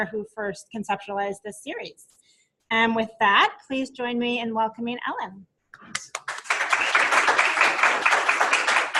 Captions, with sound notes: who first conceptualized this series. And with that, please join me in welcoming Ellen. (applause)